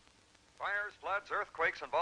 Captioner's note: radio Announcer